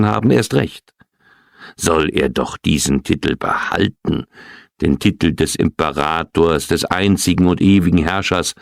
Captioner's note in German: räuspern